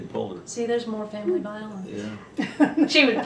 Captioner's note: laughter